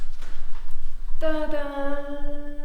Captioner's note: none